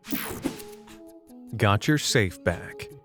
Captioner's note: slide whooshes